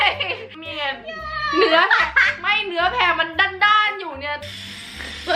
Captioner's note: laughing; laughing